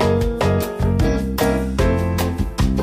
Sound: none

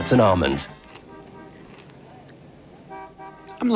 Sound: satisfied eating noises

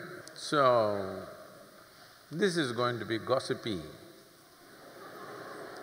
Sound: laughter

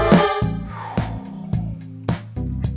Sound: exhale

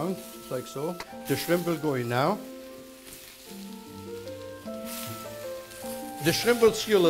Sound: sizzling

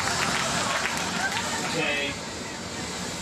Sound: audience laughing

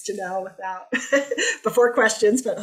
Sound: laughter

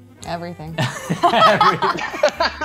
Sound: laugh; laughs

